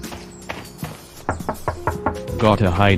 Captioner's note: door knocking